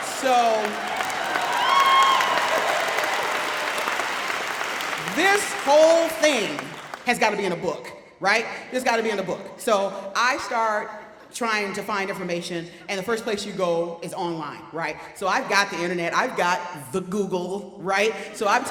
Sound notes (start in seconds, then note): 1.5 audience cheering